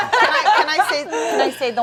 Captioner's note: laughter